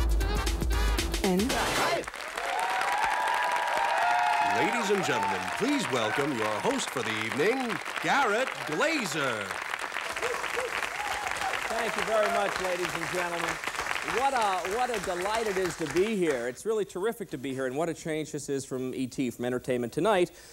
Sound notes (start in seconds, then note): 2.2 applause, cheers; 4.7 announcer over applause; 13.9 over applause